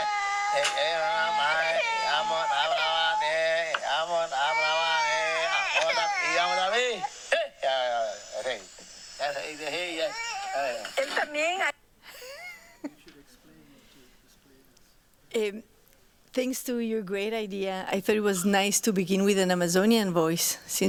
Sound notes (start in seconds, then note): 12.2 laughs